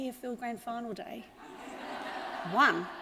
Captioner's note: audience laughs